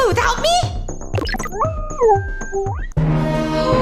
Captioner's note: sweepy beeping